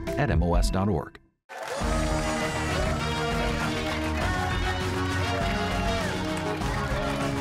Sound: cheers and applause

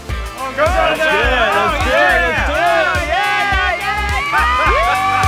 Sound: indistinct cheering

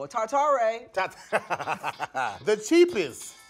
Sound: laughs

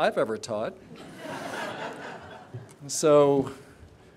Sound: laughter

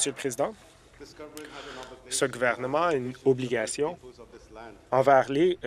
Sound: applause

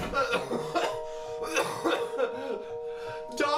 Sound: crying; more coughing

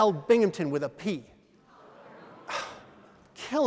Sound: audience: Ohhhh!

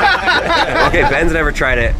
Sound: laughing

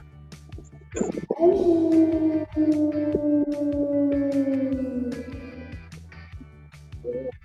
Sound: howling

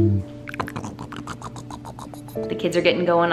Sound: making baby sounds

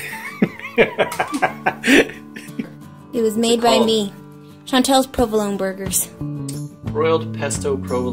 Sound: laughing

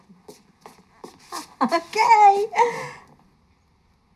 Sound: laughs

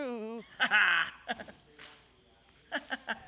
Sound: chuckles

